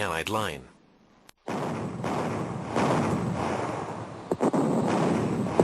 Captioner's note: heavy artillery booming